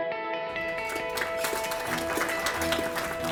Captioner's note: applause